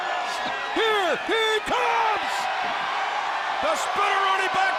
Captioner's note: crowd cheering